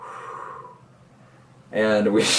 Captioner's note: blowing